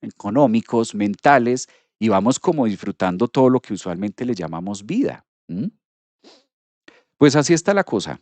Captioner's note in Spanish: resoplido